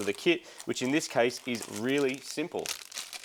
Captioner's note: plastic rustling